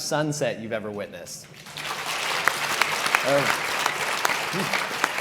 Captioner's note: audience applauds